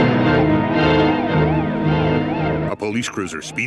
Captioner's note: siren blaring